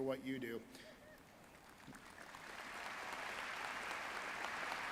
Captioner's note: audience applauding